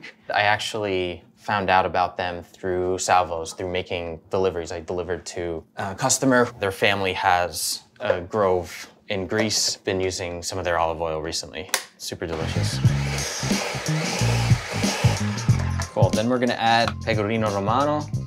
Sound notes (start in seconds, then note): 12.3 blending whirring